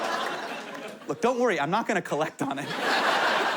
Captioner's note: laughing